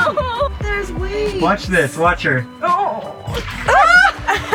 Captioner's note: whimpers